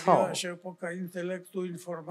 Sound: foreign language

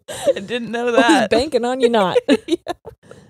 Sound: both laughing

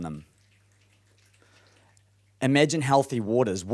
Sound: applauding

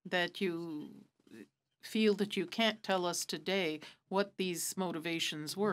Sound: speaking french

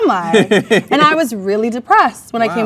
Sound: man laughs

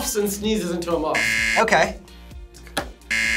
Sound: buzzer rings

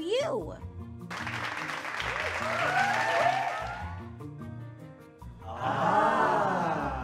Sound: audience applauds and cheers

